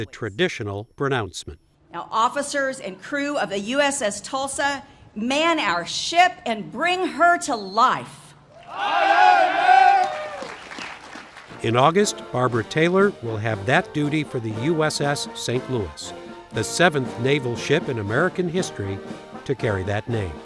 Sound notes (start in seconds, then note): 8.6 cheering and applause